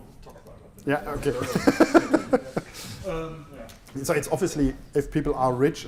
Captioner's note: laughs